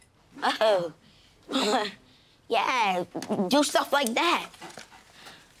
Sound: chuckles

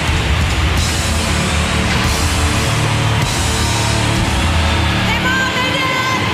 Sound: audience cheering

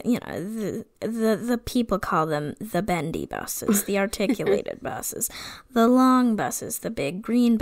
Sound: stammering

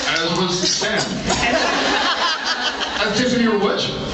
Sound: laughs

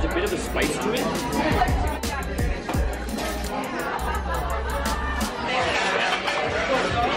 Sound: lively hip hop music; restaurant goers chattering

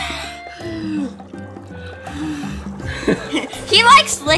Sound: blowing

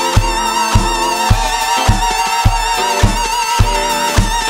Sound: audience cheers

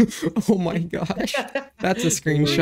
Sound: laugh

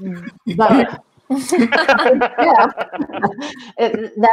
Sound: members laugh

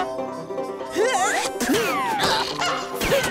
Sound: grunting

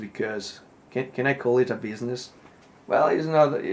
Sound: none

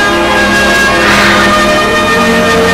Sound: sighs

